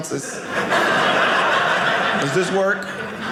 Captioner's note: audience laughing